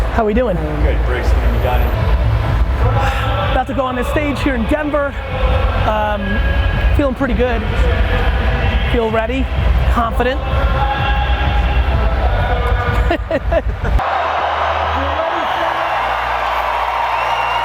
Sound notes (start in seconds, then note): 12.8 laughs; 13.7 audience cheers